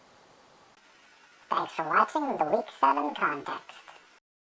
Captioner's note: computerized voice